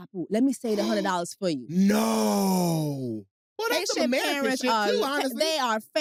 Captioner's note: speaks haitian; gasps